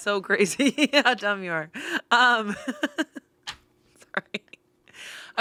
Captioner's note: laughs